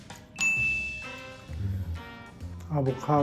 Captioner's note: Appa speaking Korean; bell chimes